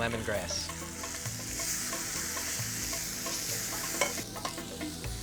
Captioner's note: pan sizzling